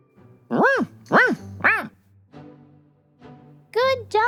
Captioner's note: barking